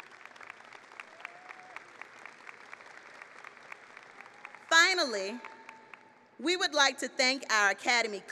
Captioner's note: applause